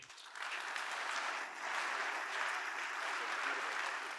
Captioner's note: crowd applauding